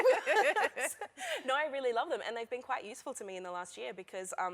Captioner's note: laughter